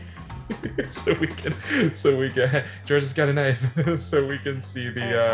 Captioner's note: laughs; laughs